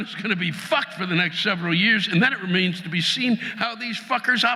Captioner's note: audience laughing